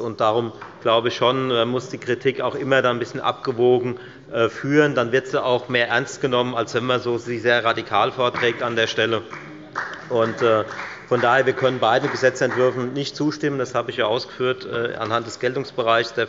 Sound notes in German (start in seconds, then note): 8.3 Beifall bei der FDP